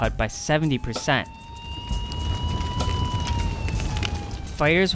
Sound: sirens

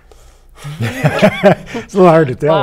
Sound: laughter

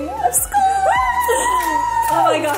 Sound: cheering

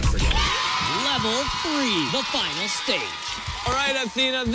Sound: cheers and applause

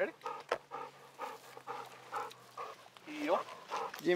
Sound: Belle panting

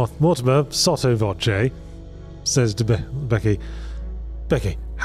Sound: none

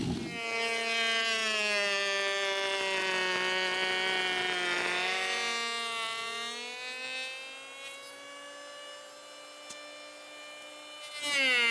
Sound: planer buzzing

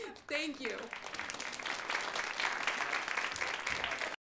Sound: audience applauds

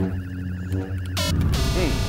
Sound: buzz!

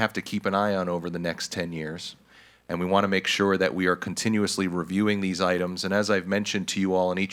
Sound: none

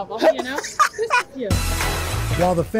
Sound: laughter

